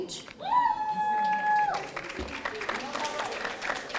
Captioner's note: audience cheering